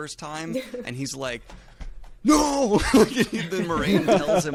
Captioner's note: laughs